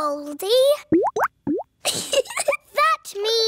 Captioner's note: bubbling; giggles